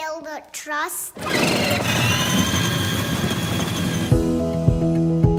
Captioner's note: tires squealing; bright music